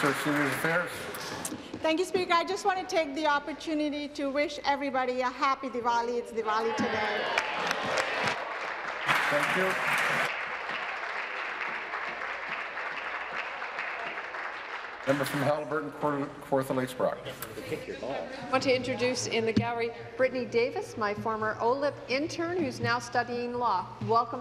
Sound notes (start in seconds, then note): 1.6 applause; 13.4 applause